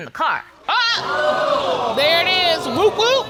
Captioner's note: all exclaim